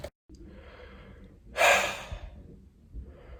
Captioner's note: sighs